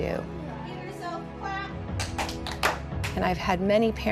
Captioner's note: students clapping